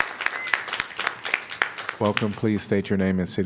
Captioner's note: applause